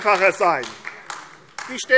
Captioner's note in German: Beifall AfD